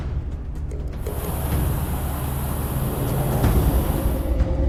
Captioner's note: engine humming